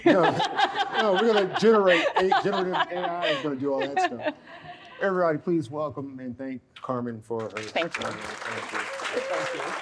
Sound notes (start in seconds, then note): 0.0 audience laughs; 7.4 audience applauds